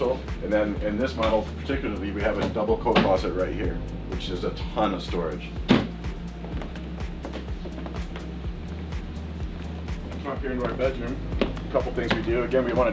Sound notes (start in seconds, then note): 5.6 door shuts